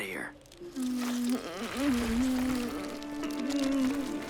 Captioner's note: Jae grumbles; wood creaks